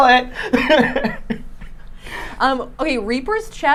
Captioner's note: laughing